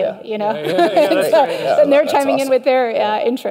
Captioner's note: light laughter